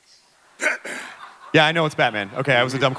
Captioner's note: in scratchy voice